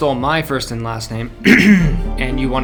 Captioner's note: clears throat